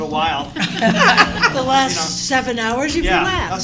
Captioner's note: laughter